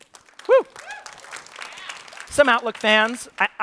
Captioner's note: applause